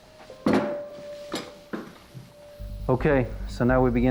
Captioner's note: bone bangs; gentle tense music